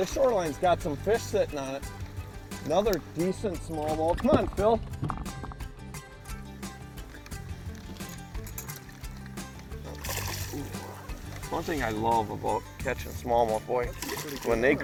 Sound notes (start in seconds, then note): 0.0 water splashing; 9.5 water splashing